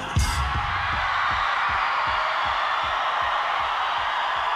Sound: audience cheering

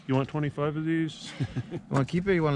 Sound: chuckling

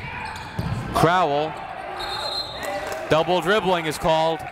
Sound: whistle

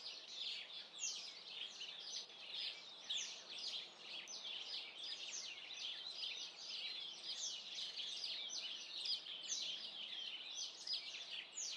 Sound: birdsong

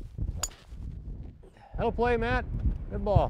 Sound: ping!

